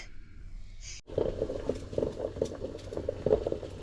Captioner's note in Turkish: su kaynama sesi